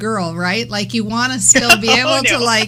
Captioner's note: laughter